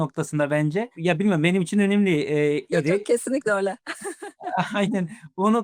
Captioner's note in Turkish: kahkaha